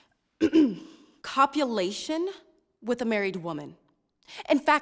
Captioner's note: clears throat